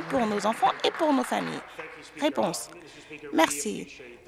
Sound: some Applause

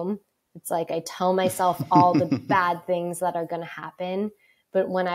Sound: laughs

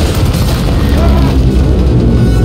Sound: exertion

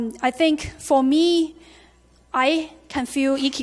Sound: none

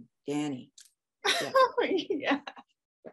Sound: laughing

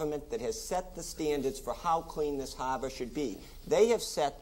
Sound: none

